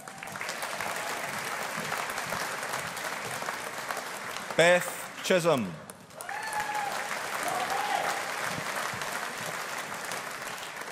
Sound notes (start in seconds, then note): 0.0 audience applauding